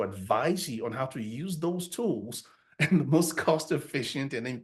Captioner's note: chuckles